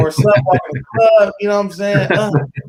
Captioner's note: laughing